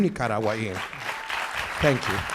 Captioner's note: audience applauds